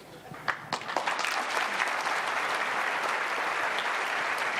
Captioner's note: audience applauding